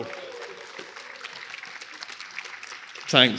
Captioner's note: applause